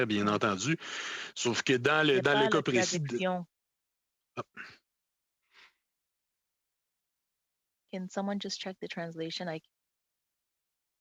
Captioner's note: speaking French